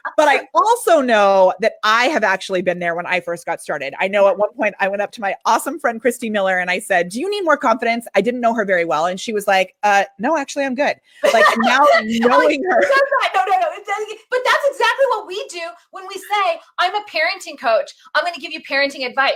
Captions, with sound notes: - Right? But I also know that I have actually been there when I first got started. I know at one point I went up to my awesome friend, Christy Miller, and I said, "Do you need more confidence?" I didn't know her very well, and she was like, "Uh, no, actually, I'm good." (laughs) - Kinda like, who says that? - Now, in knowing her-- - No no. But that's exactly what we do when we say, "I'm a parenting coach. "I'm gonna give you parenting advice."